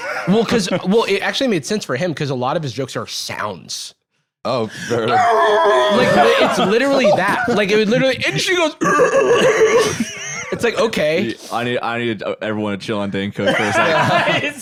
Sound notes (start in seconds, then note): 5.0 muffled screaming; 8.8 loud, stuttering laugh